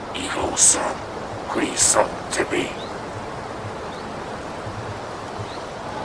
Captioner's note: monster speaking foreign language